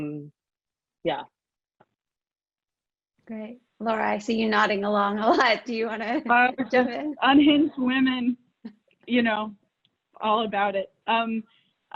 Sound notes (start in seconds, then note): 6.3 laughs